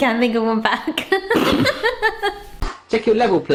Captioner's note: laughing